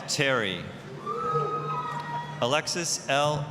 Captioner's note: applause, cheering